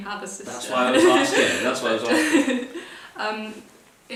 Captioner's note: laughter